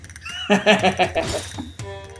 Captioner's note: chuckles